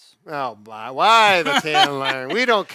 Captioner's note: laughs